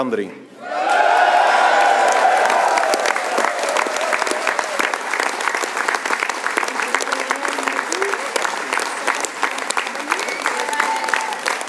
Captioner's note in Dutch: applaus